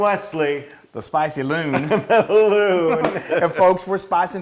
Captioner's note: laugh